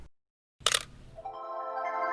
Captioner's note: shutter clicks